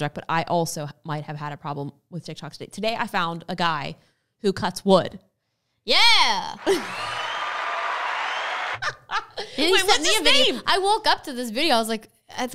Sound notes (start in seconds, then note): 6.5 crowd cheering; 8.8 laughs